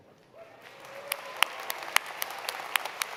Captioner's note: applause